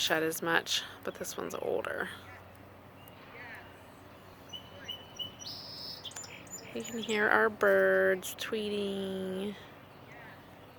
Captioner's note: tweet tweet tweet